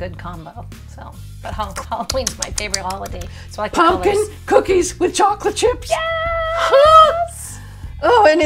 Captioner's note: lip smacking